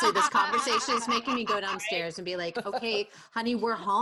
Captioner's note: laughter